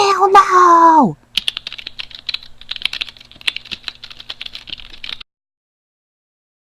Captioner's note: typing sound effect